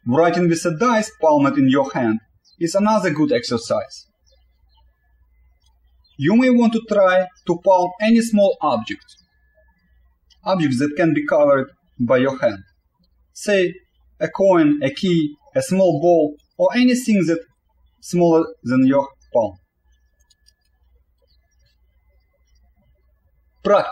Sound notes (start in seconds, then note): 5.2 birds chirping